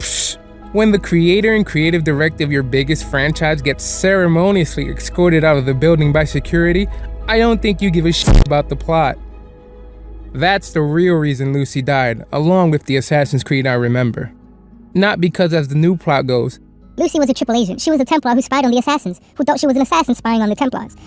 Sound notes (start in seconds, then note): 0.2 pfffft; 8.2 glitch